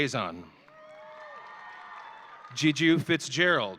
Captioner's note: audience cheering